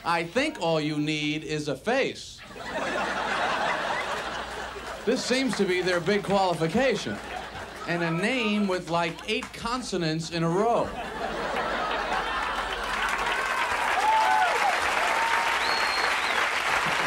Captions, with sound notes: all you need is a face. (audience laughs) this seems to be their big qualification, and a name with like eight consonants in a row. (audience laughs and applauds)